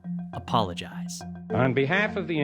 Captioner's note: soundbite of archived recording